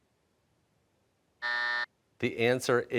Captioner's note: buzzer